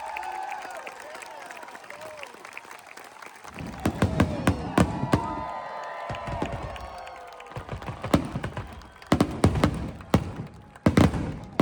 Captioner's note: cheering, applause, fireworks